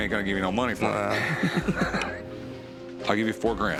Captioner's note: laughter